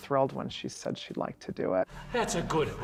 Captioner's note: panting